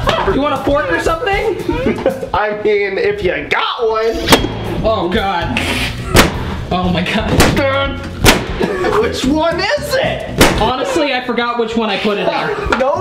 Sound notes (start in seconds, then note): 1.5 laughs; 8.2 pop sound